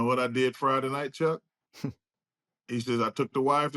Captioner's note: chuckles